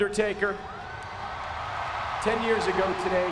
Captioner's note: audience cheering